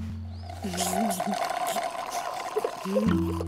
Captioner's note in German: Schlürfen